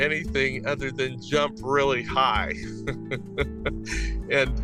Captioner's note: laughs